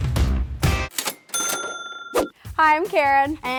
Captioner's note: upbeat music; cash register dings